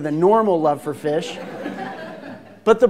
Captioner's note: laughter